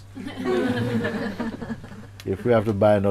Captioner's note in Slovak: Smiech